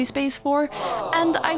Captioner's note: sad aww sound effect